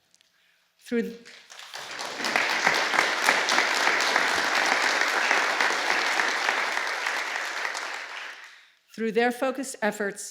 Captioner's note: applause